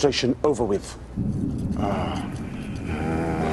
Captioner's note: Пъшкане